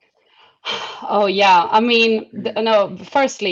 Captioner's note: sighs